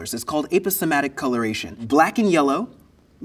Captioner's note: none